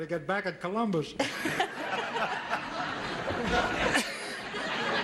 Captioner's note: audience laughs